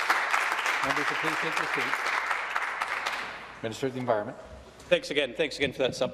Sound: some Applause

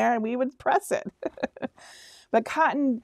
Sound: laughing

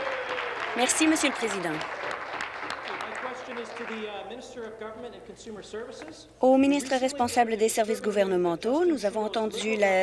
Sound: applause

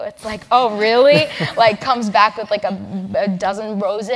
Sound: laugh

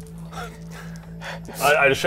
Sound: fearful noises

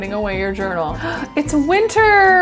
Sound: gasps

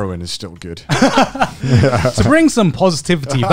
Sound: all chuckling

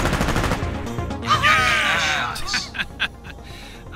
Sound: cheers excitedly; laughs under his breath

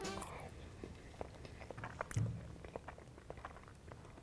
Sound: chewing

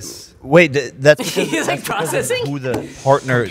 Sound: laughs

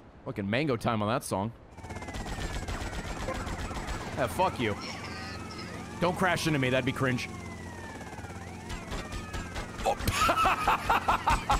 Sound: laughs

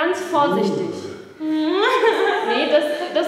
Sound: laughs

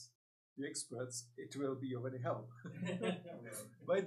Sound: laughs; laughing

